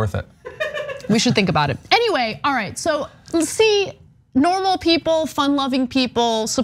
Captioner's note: laugh